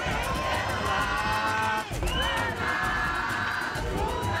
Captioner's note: crowd chanting